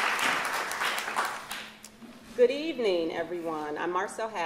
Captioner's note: applause